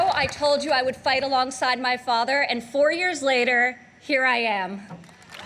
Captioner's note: applause